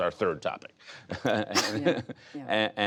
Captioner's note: laughter